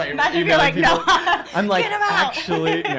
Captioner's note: laughter